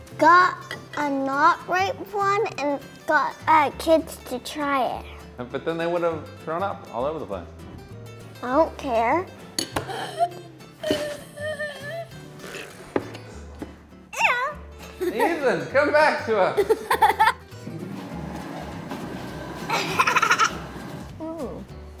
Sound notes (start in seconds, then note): 9.3 imitates choking; 16.6 laughs; 17.6 chair scraping; 19.7 laughs